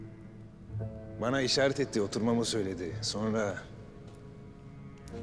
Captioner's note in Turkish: Ahmet dış ses